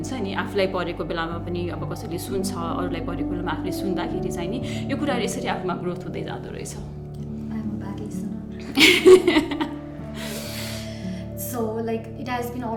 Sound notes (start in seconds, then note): 8.7 laughs